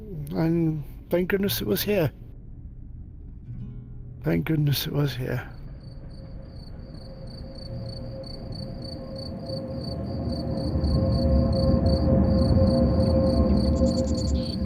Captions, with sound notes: And thank goodness it was here. Thank goodness it was here. -(crickets chirping) -(train passes)